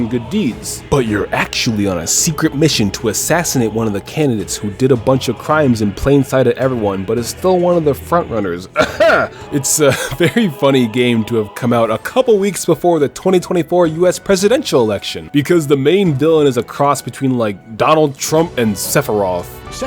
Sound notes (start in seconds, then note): 8.7 ahem